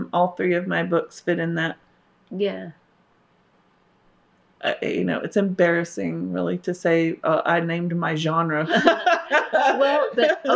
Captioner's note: laughter